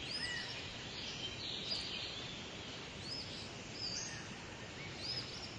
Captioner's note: birds cawing and chirping